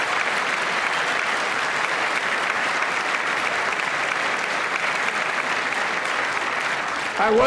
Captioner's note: applause